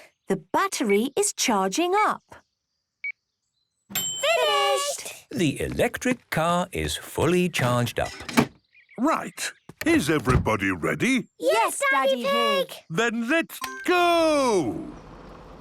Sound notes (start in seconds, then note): 3.9 dings